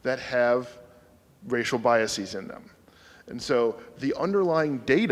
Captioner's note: none